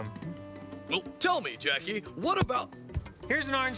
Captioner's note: thud